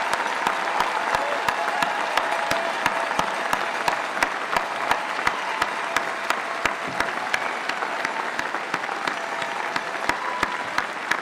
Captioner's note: applause